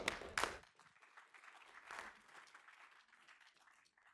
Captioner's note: audience claps